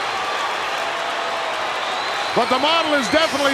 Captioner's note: audience cheering